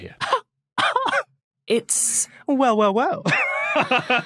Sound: wheezes; laughs

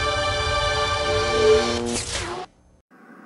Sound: mechanical sounds; dramatic sounds

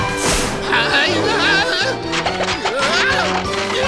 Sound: screaming

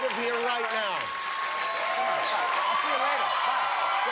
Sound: cheers and applause

